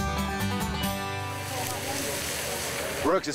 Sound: crackle of frying food

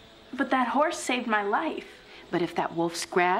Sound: none

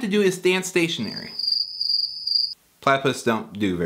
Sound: crickets

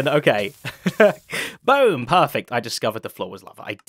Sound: chuckles

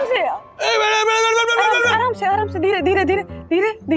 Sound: slowly, easy; screaming in pain

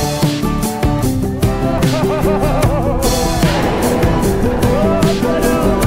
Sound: laughing

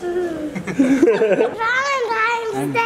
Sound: laughter

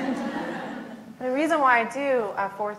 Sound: laughs

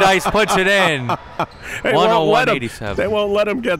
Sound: laughing

